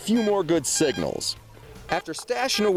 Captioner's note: beeping